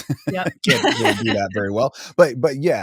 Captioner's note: chuckling; laughing